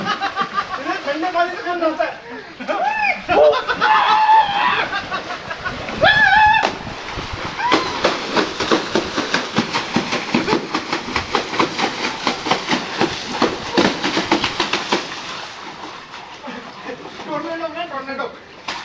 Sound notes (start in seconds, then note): 2.3 cheering and Laughing